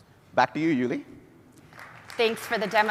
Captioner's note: applause